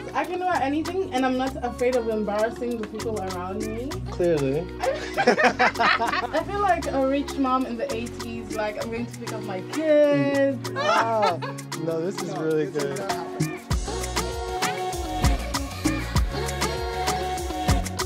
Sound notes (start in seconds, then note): 4.8 laughs; 10.1 laughs; 14.5 upbeat music